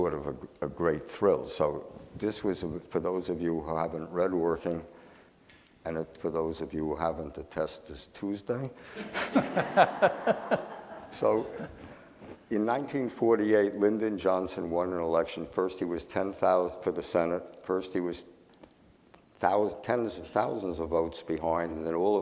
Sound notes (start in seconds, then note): 8.8 laughing